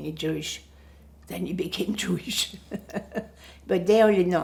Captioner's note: laughing